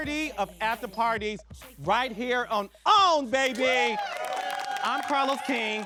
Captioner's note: audience cheering